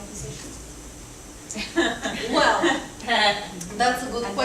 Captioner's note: scattered laughter